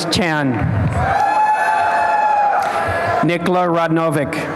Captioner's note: applause and cheering